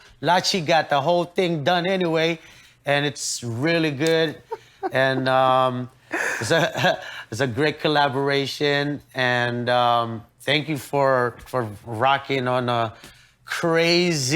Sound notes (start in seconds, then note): 4.1 giggles